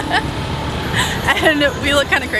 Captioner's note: laughter